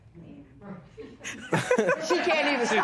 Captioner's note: laughs